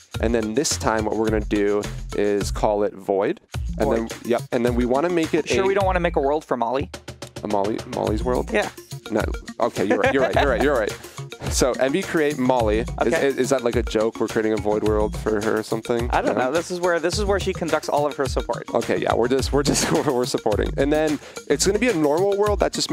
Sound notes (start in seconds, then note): 9.7 laughs